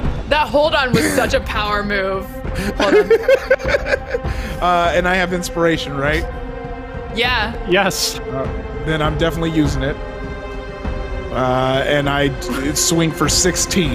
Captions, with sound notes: - The hold on was such a power move, hold on. (laughing) - And I have inspiration, right? - Yeah. - Yes. - Then I'm definitely using it, and I swing for 16,